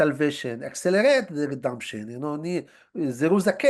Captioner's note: hebrew